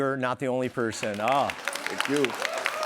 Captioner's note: applause